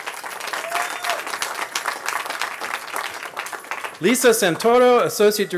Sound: cheering

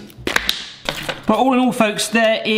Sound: toffee clatters

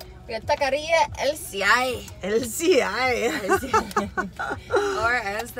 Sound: laughter

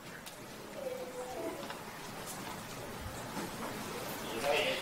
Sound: audience murmurs

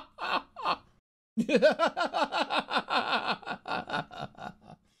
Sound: more of a disturbed old man laugh; green goblin laugh

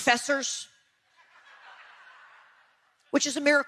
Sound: audience laughing

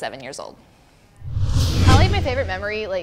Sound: swoosh

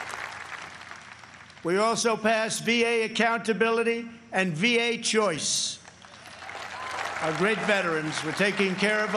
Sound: applause

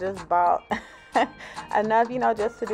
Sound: chuckles

